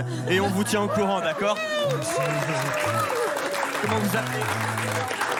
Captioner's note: applause